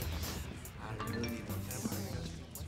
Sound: chiming

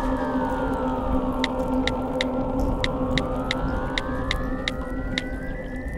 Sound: phone typing sounds

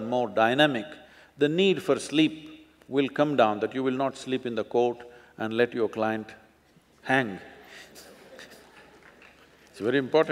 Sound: laughs

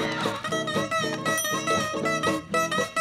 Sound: screaming; dinging

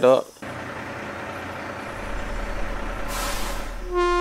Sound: truck engine running; truck air brakes; horn blows

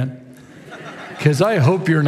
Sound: congregation laughs

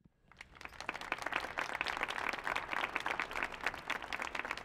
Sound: audience applauding

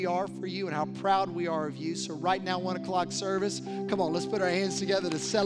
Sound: applause

